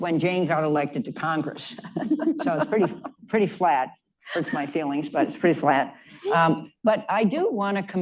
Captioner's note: laughter